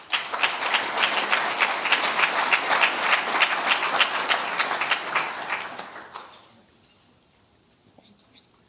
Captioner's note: audience applause